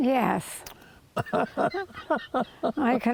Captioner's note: chuckles